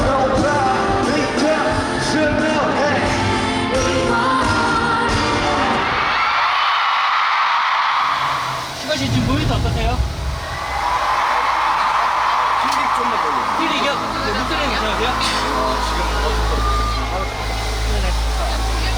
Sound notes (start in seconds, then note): 9.9 in need of continuous sound checks due to the cheers